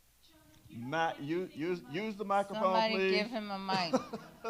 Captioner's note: laughs